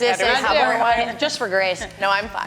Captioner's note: assorted chattering